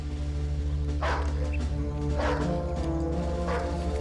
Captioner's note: dog barking